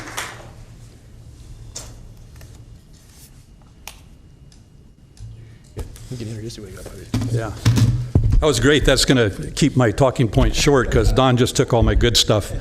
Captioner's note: applause